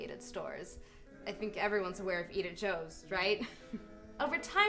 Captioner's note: chuckles